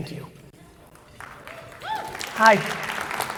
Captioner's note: audience applauding